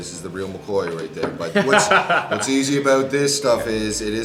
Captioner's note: laughs